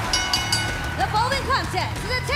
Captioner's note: bell ringing